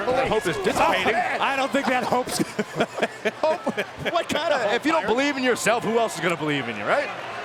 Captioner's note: laugh